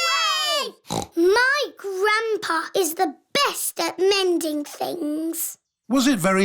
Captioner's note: snorts